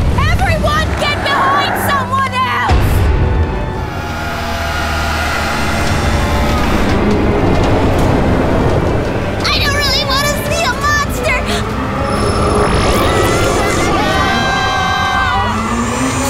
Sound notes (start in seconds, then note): 3.7 scary growl; 11.9 growl; 13.1 everyone screams